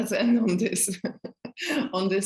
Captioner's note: chuckling